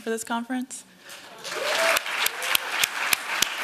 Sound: applause

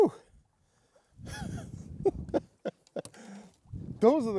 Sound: laughing

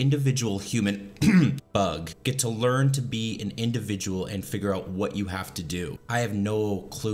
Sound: clears throat

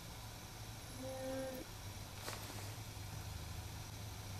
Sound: buzzes faintly

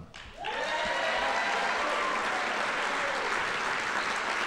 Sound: audience applauding

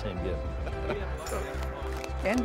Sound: chuckles

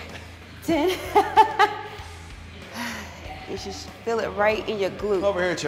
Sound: laugh

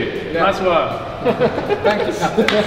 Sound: group laughing

